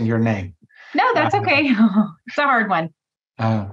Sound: laughs

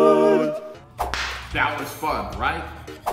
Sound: whip cracking; whip cracking

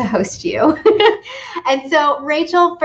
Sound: laughs

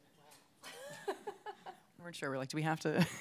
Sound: laughs

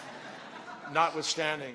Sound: laughter

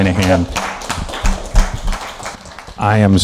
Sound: applause

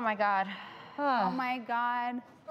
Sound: sigh

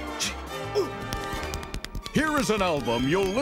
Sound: tapping

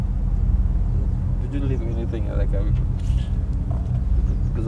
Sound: sniffles

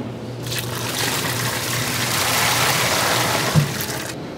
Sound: butter brick slapping; water splashing

